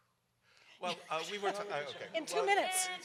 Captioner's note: panel members laugh